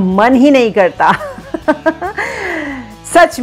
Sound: giggles

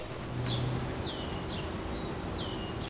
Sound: birds chirping

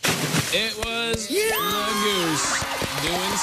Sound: kids cheering

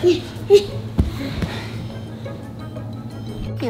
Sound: laughing

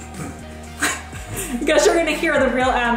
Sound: both chuckle

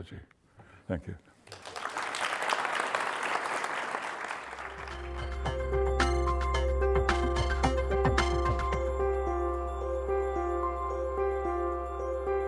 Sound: applause

